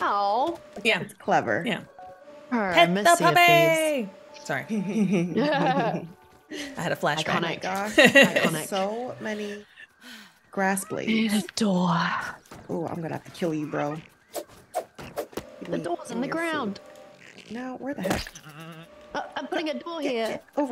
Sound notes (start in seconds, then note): 4.7 laugh